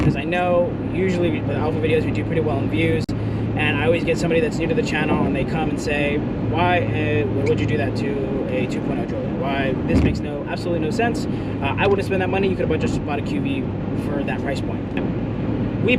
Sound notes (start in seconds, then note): none